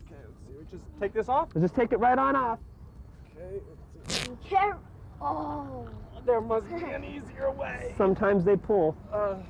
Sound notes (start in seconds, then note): 4.0 zipper pulling; 7.2 laughter